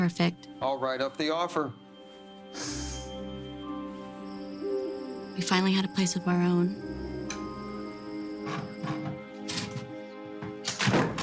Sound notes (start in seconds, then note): 2.5 insects trilling